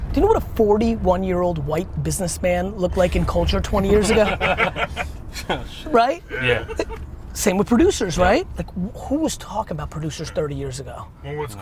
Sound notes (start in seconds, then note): 3.8 laughs